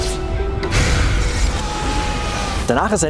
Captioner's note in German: Er schreit